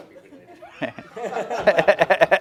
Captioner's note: laughter